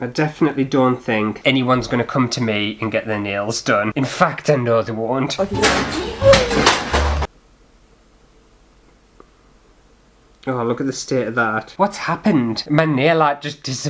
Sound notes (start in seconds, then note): 5.5 clatter!